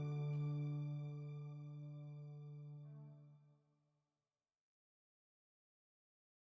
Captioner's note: music Fades; silence